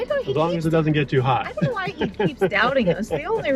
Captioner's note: laughs